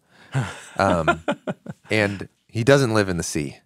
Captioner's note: laughs